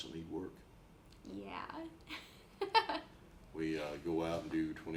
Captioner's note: laughs